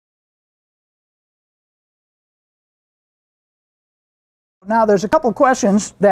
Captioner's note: silence